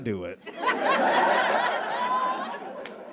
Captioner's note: audience laughs heartily